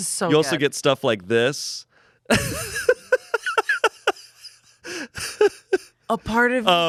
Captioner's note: laughs